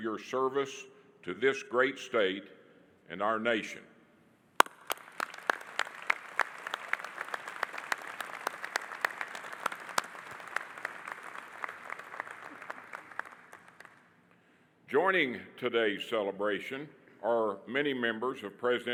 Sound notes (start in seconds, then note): 4.9 audience applauding